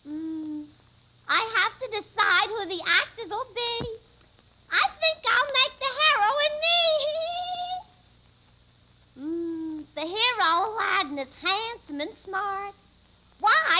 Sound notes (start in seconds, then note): 8.6 giggling